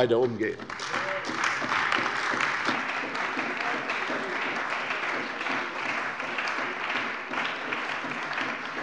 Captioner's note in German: Beifall bei der CDU